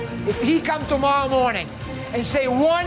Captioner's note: none